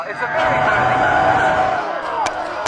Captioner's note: lasers firing